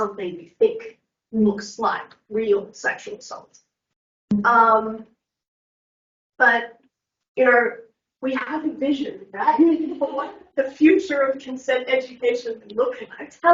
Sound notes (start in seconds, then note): 9.6 everyone laughs